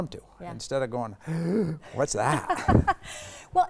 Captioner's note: gasps; laughing